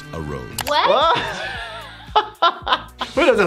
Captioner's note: both laughing